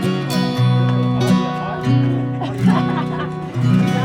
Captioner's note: laughter